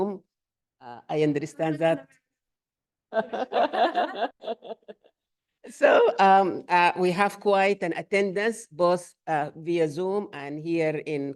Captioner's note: laughter